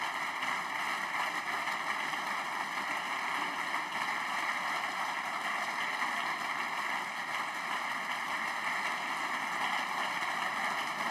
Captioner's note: applause